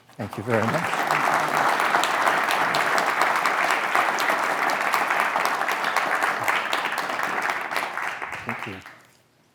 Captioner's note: applause